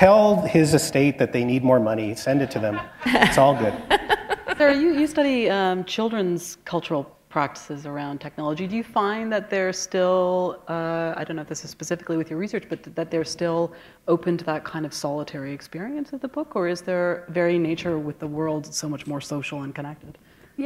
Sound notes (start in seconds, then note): 4.2 laughter